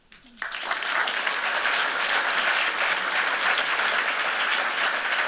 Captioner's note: applause